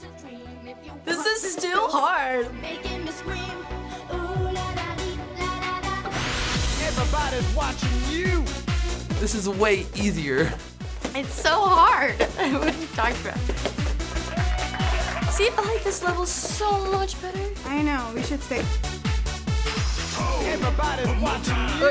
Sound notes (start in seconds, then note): 6.0 tempo quickens; 13.6 crowd applauds